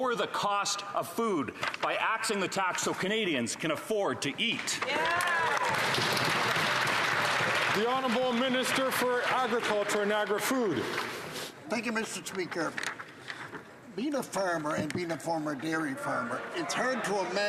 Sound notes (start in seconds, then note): 7.7 some Applause